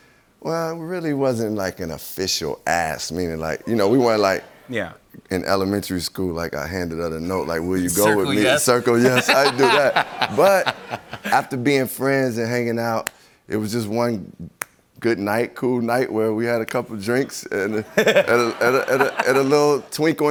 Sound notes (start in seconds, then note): 8.0 laughter; 17.1 laughter